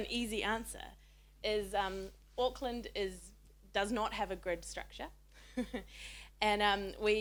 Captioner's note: chuckles